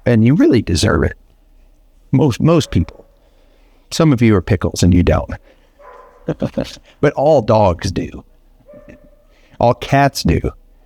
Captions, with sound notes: And you really deserve it. Most people. Some of you are pickles and you don't. (chuckles) But all dogs do, all cats do.